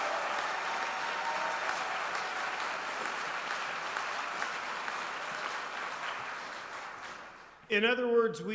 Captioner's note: applause